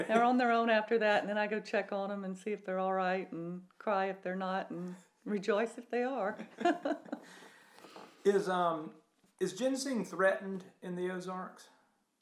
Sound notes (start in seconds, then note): 6.3 chuckles